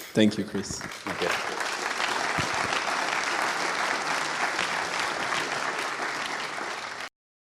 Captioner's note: applause